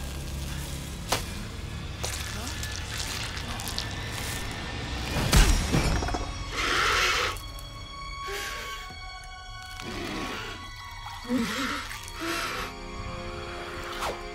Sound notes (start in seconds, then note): 6.4 screeching